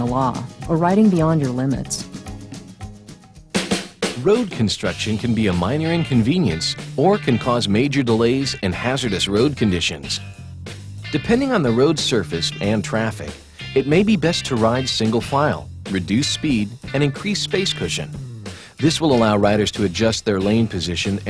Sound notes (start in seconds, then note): 4.4 voiceover